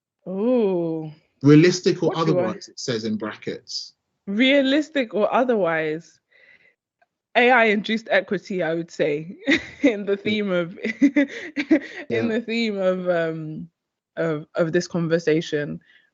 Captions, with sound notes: - Ooh. - "Realistic or otherwise," it says in brackets. - Realistic or otherwise? AI-induced equity, I would say, (chuckling) in the theme of this conversation.